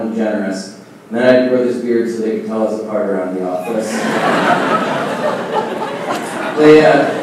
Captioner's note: laughing